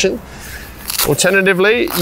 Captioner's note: Velcro scratches open